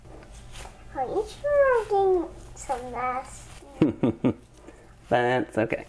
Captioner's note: laughing